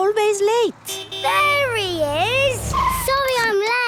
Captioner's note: honking